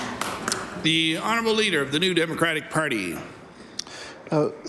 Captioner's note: some Applause